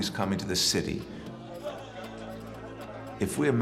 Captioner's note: indistinct chatter